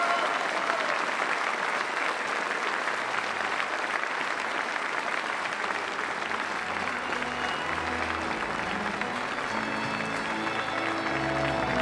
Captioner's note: applause